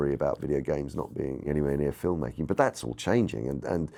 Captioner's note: none